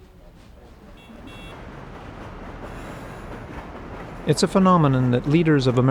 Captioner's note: cars honking